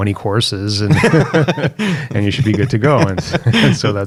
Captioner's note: both laughing